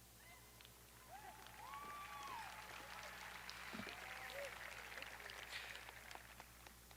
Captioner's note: audience cheering; audience applauding